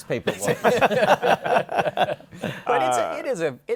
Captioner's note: laughter